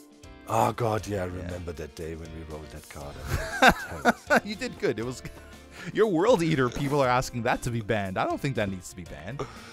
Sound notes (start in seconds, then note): 3.2 laughs